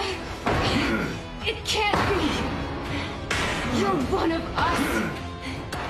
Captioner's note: lame grunting of R.C